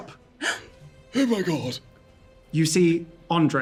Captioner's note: old man voice